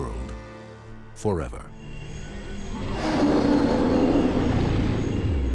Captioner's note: roars